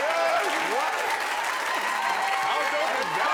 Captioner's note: crowd cheering